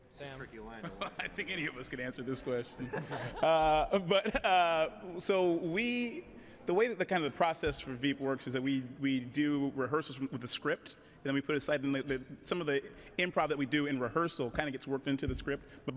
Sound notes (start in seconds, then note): 2.7 laughter; 2.7 laughing